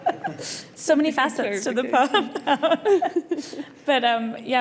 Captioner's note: panellists laughing; laughs